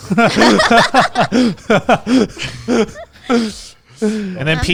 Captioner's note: everyone laughing